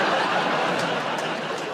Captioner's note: laughter